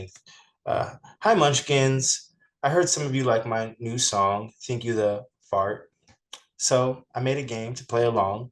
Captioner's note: fart